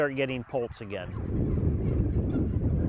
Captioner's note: wind rushing